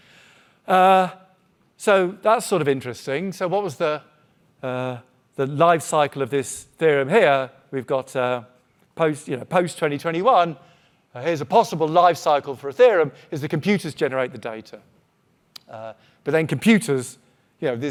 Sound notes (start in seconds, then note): none